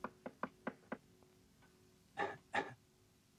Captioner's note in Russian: стучит, покашливает